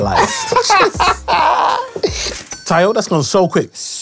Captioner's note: laughter